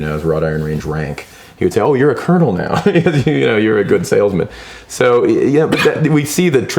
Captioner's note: laughs